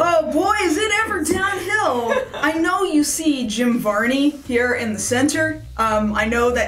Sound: laughter

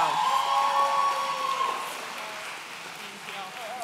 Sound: audience cheering

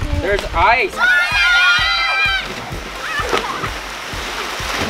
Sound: screams

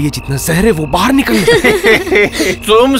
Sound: laughs

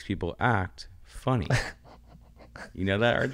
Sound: laughs

